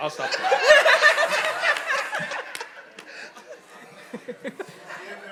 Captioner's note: audience laughing